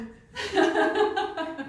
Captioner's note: laughing